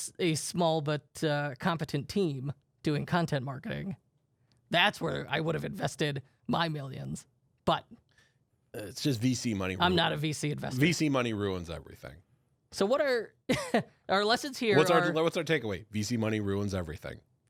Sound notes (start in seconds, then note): 13.6 laughs